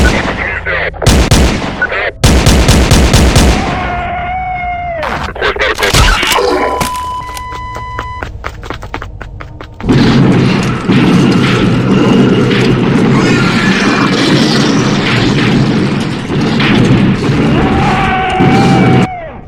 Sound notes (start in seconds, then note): 0.0 gunshots continue; 2.3 gunshots countine; 3.6 creature roars; 10.8 shotgun blasts and gunshots; 13.1 creature screams in pain; 13.9 shotgun blasts and gunshots continues; 17.6 creature roars in pain